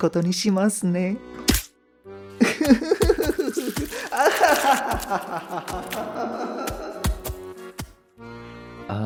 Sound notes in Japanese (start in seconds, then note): 2.4 狂った笑い